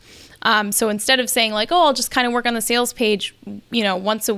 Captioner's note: none